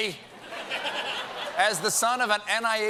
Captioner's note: laughter